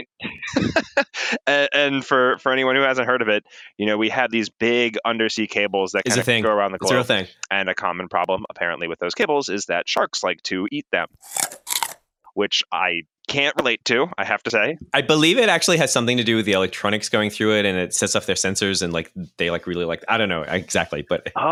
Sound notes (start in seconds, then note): 0.1 laughs; 11.2 chomping